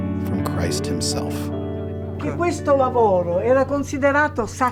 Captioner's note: speaking in foreign language